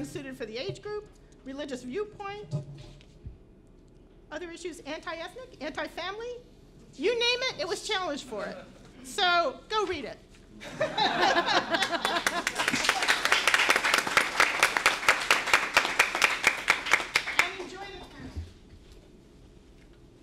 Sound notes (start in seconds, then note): 10.6 laughter & Applause